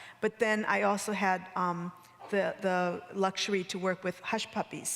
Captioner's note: none